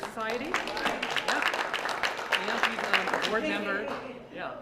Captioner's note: applause